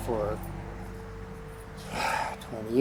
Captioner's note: sighing